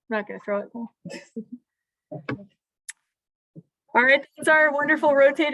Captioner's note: laughter